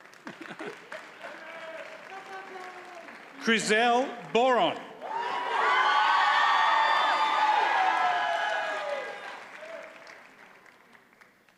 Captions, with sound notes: (audience cheers and applauds) Khryzel Boron. (audience cheers and applauds)